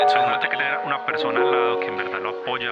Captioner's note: speaking in foreign language